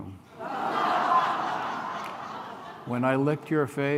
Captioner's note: laughter